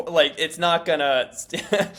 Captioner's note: laugh